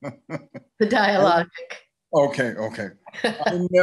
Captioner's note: chuckles